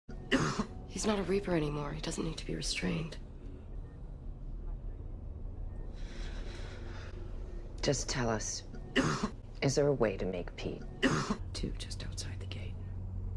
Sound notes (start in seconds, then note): 0.3 cough; 9.0 expels phlegm